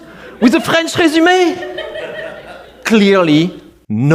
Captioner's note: laughter